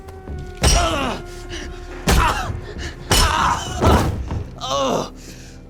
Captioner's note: grunts